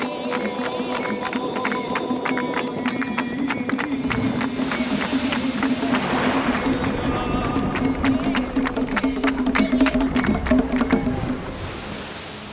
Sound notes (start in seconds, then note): 3.4 waves crashing